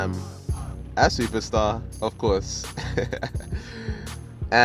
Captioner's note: laughing